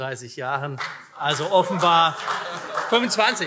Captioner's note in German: Vereinzelter Beifall